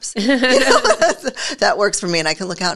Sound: both laugh

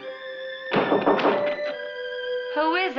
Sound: knocking on door

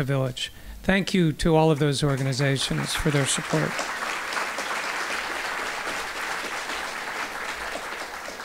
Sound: applause

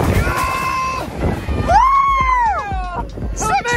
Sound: cheering

